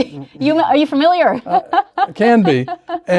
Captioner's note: laughs